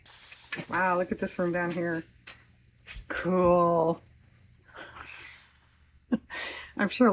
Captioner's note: laughs